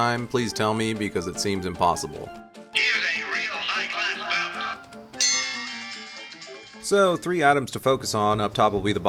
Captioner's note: phone voiceline